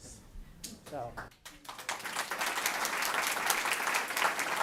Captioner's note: audience applauds